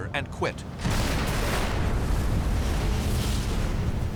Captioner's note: explosions